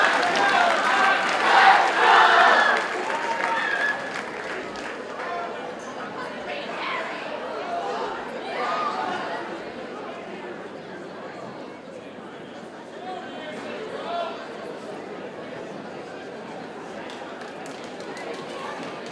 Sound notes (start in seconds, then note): 0.8 ambient audience chatter